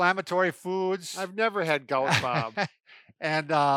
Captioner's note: laughs